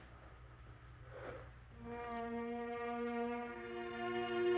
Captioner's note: crickets chirping